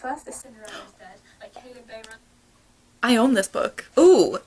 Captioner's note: gasp